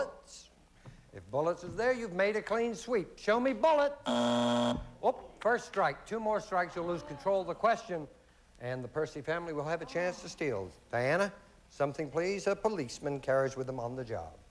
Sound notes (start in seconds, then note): 4.0 buzzer